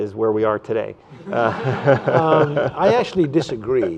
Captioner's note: laughter